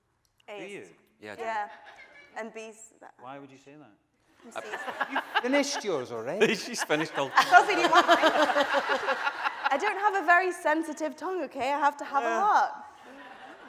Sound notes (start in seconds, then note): 4.5 audience laughing; 9.1 laughing